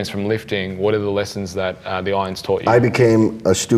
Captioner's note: murmurs